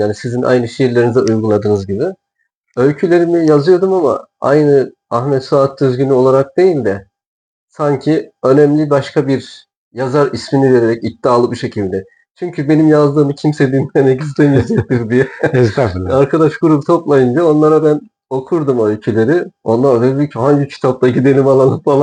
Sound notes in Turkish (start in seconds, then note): 14.2 kahkaha